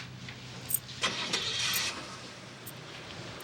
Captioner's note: car engine starts